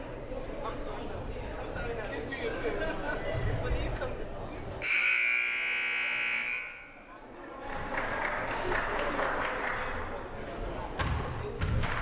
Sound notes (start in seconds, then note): 4.8 buzzer blaring; 6.4 crowd murmuring; 8.6 hands clapping